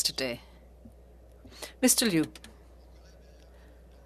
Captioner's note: speaking French